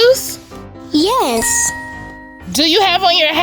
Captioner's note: magical ting